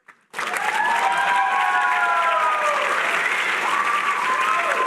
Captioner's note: applause